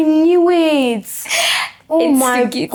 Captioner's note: laughs